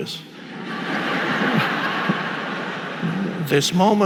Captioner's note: audience laughing